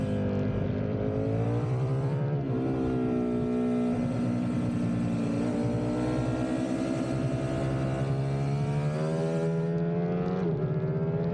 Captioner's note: engine roaring